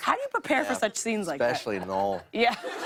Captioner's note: laughter